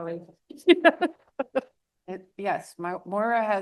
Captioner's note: laughs